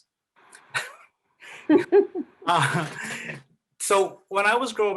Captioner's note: laughter